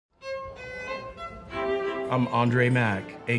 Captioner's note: muffled chatter